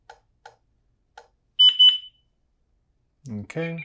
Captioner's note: beeps